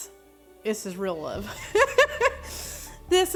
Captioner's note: laughing